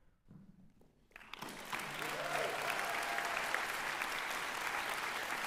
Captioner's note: applause